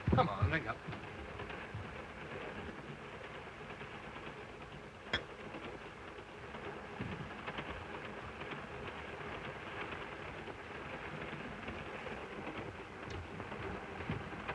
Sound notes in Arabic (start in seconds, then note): 2.5 صوت خشخشة القطار